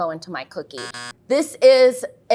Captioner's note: buzzer sounds